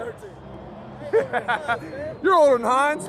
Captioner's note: laughs